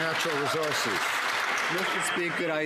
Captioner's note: some Applause